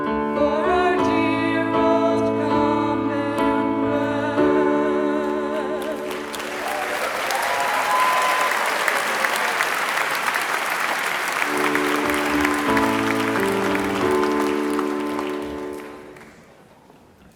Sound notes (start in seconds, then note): 6.6 attendees applauding; 11.3 mellow music